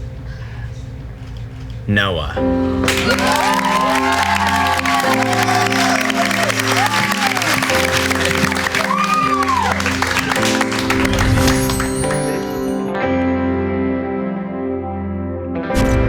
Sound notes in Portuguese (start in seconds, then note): 2.8 Aplausos